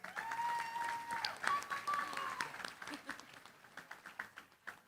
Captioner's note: applause